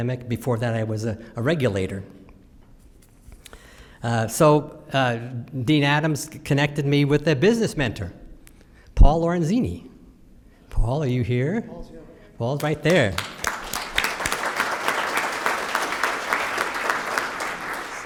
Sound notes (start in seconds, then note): 12.6 applause